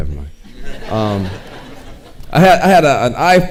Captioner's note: audience laughing